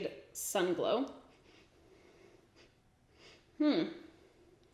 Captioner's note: sniffs